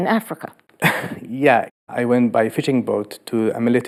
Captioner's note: laughs